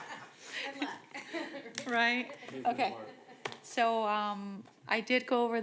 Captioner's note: laughter